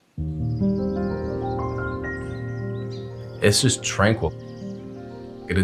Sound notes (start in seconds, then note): 0.0 birds chirping